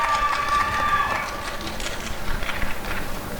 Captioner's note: applause and cheering